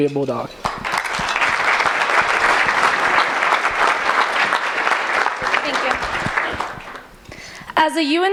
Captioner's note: applause